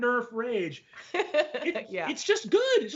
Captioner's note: laughs